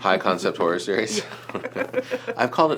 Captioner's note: laughing